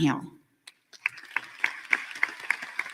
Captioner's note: applause